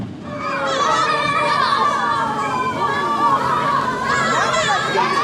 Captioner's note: children cheering loudly